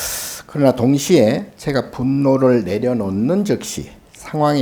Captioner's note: speaking Korean